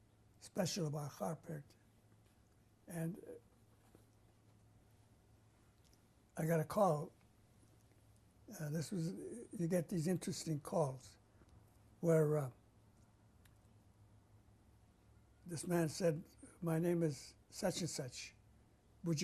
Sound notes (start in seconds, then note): 3.5 pauses for 3 seconds